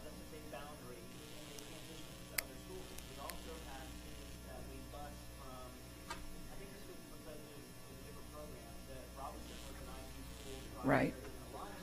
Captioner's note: off microphone